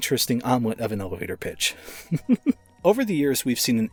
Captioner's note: chuckles at bad pun